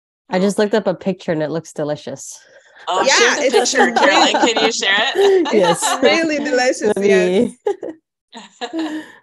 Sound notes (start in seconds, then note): 2.8 laughing